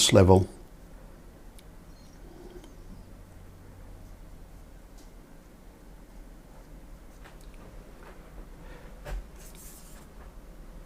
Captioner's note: silence